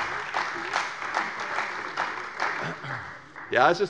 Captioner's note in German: Beifall bei der CDU